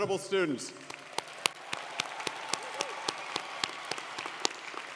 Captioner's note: audience applauding